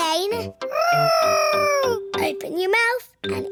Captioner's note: imitating aeroplane